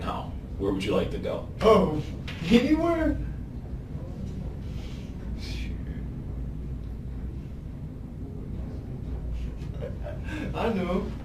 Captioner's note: laughs